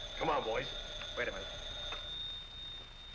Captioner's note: phone ringing